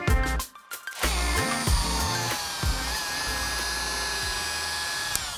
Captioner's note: motor whirring